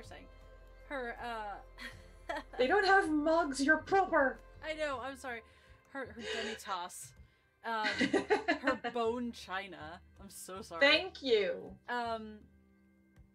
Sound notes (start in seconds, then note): 7.8 laugh